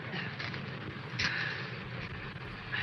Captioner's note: breathing heavily